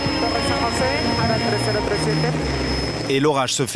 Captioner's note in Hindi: स्पैनिश बोलते हुए